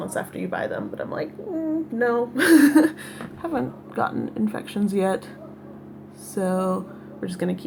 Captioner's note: laughs